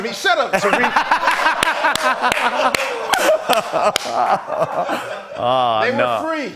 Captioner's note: laughter